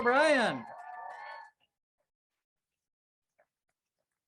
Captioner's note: crowd cheers